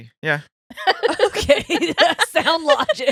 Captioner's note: laughing